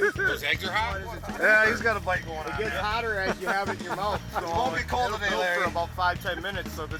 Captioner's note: laughing; laughing